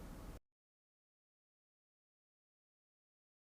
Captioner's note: silence